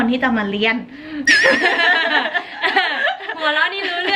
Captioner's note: suddenly, they are laughing?!